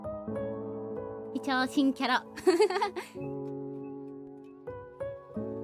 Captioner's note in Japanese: 笑い